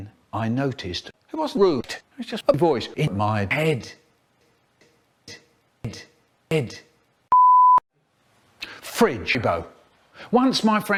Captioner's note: beep